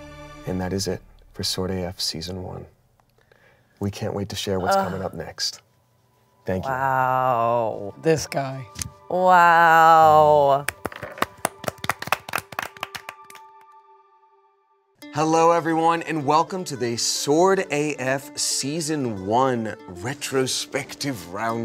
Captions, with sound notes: And that is it for "Sword AF" season one. We can't wait to share what's coming up next. Thank you. - Wow. - This guy. - Wow. (everyone applauds) - Hello, everyone, and welcome to the "Sword AF" season one retrospective round table.